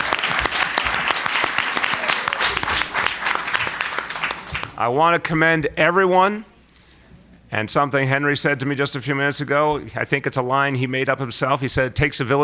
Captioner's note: applause